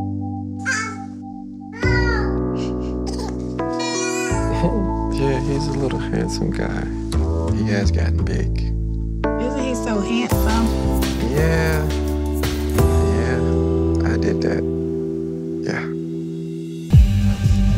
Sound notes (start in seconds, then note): 0.9 cooing, laughing; 13.6 reflective music